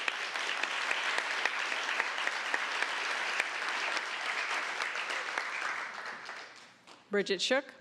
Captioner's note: applause